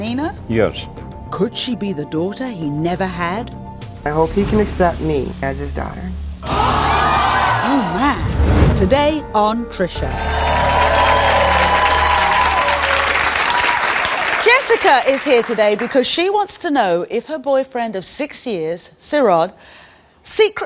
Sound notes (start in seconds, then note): 6.5 audience gasps; 10.0 audience applauds